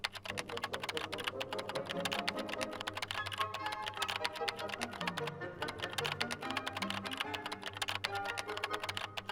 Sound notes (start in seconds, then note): 0.0 keyboard clicking; 1.0 dramatic music continues